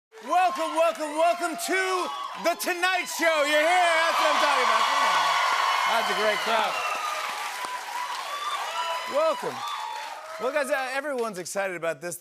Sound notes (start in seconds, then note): 4.8 cheering and applause